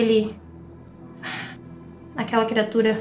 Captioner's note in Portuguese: suspiro